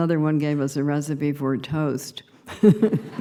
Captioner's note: laughter; laughing